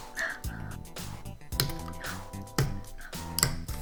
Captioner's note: gasps every single time